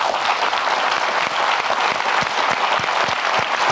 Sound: applauding

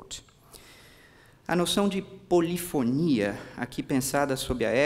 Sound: speaking portuguese

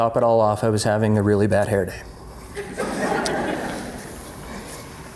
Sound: laughter

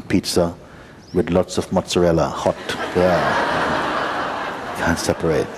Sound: laughter

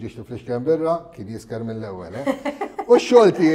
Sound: laughs

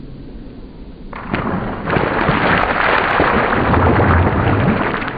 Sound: slime splashes

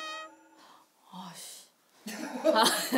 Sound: sighhh

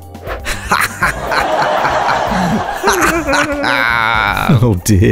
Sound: laughing

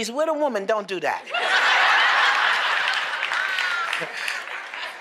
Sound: laughter; applause

